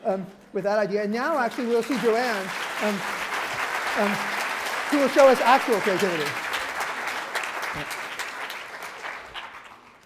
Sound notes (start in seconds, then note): 2.3 applause